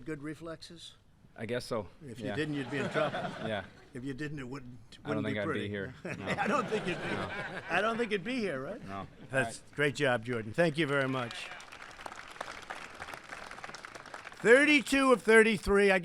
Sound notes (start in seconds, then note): 2.4 laughter; 5.8 laughter; 10.2 applause